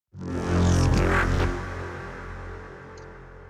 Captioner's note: awesome Intro Sound